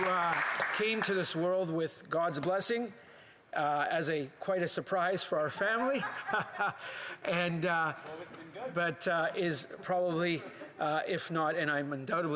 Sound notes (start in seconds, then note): 2.3 applause